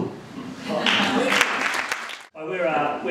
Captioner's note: applause